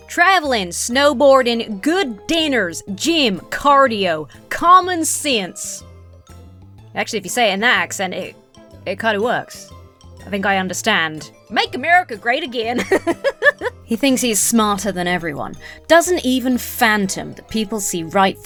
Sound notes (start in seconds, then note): 12.7 laughs